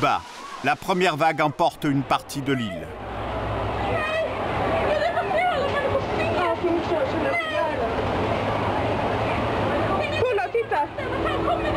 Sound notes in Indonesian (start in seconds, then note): 3.2 suara gelombang air; 3.2 suara kepanikan